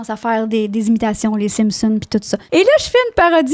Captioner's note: in french